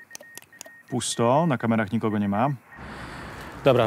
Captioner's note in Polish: dźwięk nadawania Morsem